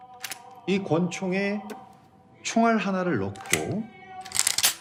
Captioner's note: recruiter speaking in Korean; gun cocks